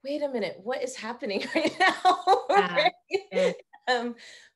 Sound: laughing

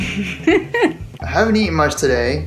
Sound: laughing

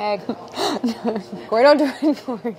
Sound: giggling

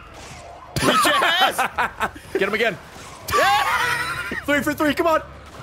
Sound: laughs

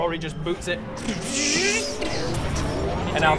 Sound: brrrtchsszzzzzzzh!

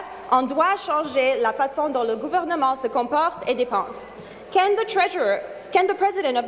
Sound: speaking in French

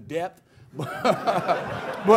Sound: laughter

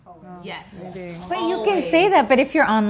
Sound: women agreeing

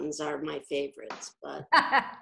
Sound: laughter

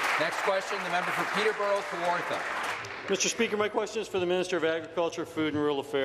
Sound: applause

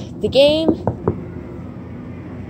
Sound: knocking On Glass

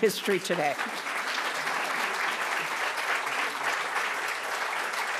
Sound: attendees applauding

